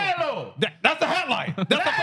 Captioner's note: speaking Spanish